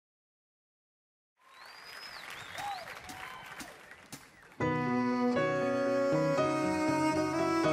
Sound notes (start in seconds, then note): 1.4 cheering; 4.6 emotional music